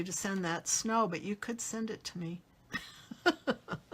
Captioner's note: laughs